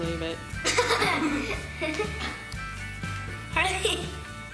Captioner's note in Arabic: ضحك